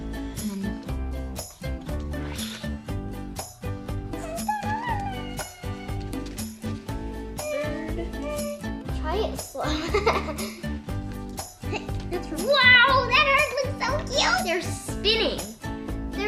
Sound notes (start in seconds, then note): 4.9 humming; 9.7 giggles